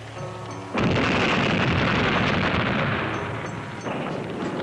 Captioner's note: explosion booming